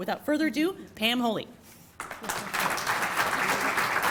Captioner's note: applause